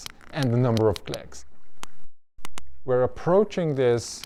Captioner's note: whale clicking